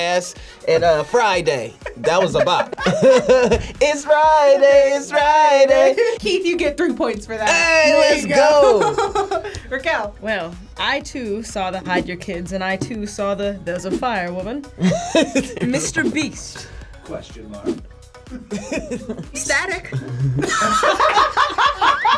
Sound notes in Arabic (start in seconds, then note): 1.8 يضحك الجميع; 7.0 يضحك; 14.8 يضحك; 19.9 تضحك